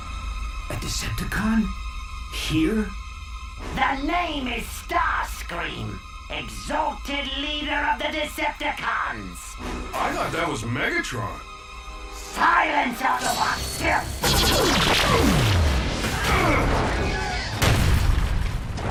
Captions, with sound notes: A Decepticon? Here? The name is Starscream, exalted leader of the Decepticons. I thought that was Megatron. Silence, Autobot filth! (GRUNTS)